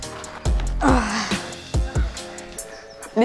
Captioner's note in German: stöhnt